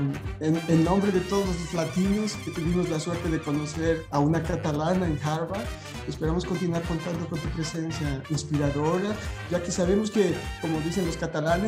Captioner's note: speaking spanish